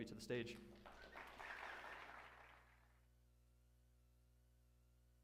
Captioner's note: applause